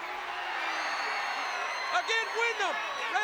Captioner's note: crowd cheers